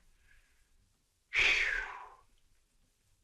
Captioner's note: phew